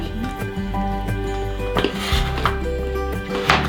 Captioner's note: nom nom